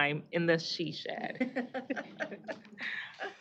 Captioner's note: chuckling